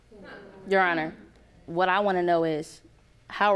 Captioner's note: audience groaning